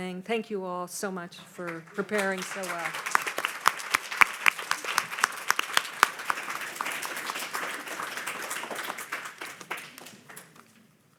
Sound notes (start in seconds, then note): 3.2 audience applauding